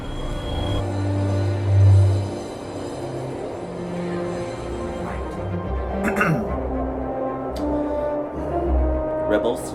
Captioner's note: clear thorat